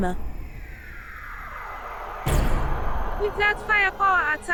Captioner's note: laser gunfire outside